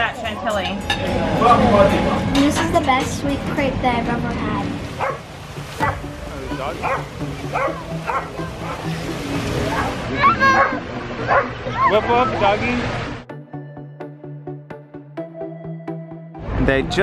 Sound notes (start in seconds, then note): 5.0 dog barking; 7.5 dog barking; 10.3 babbling; 13.6 upbeat music